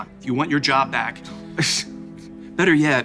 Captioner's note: scoffs